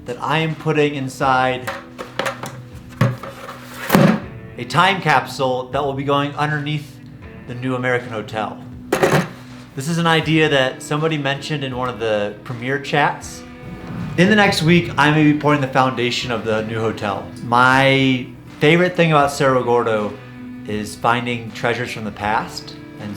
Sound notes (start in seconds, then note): 1.6 bucket clattering; 8.9 banging on bucket